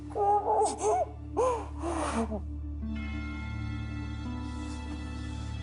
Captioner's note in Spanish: Solloza